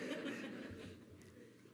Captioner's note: laughter